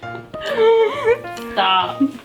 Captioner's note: laughter